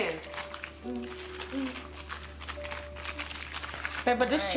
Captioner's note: humming